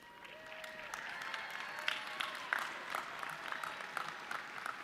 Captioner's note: audience clapping